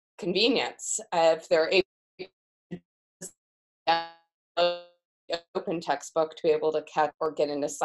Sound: audio fades out

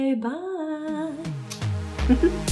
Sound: kiss

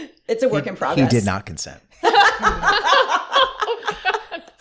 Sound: scandalized laughter

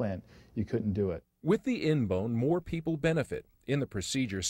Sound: voiceover

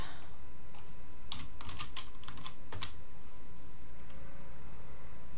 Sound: keyboard clicking

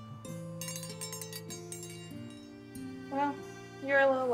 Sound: bell rings

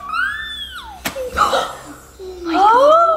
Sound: kids gasping

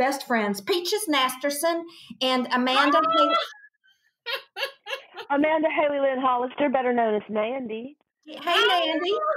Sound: in character voices; laughter

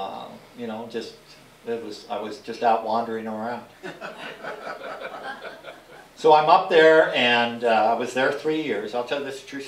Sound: laughter

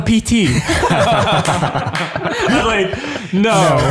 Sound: all laughing

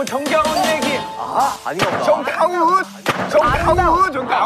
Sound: ding!

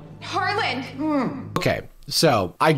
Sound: muffled grunt

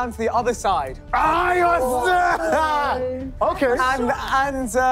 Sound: screaming

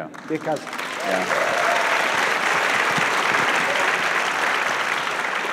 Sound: audience applauds

